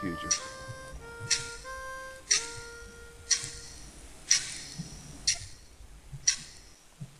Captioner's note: clock ticking